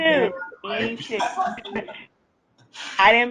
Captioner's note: laughing